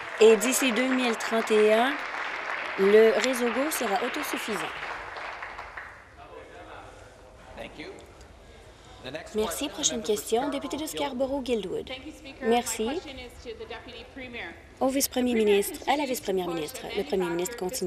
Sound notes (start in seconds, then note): 6.8 applause